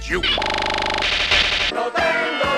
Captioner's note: electrical noises